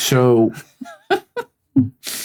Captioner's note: laughing